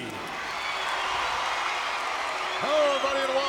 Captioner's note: audience cheering